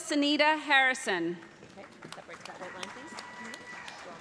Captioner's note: applause